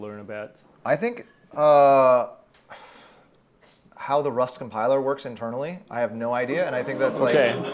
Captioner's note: audience ooh's and aah's